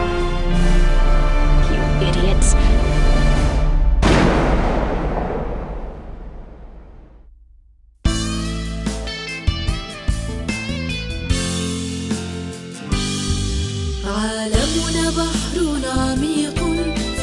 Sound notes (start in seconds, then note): 4.0 gunshot